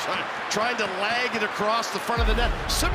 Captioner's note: booing